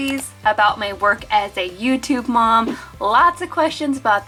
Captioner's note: mouse clicks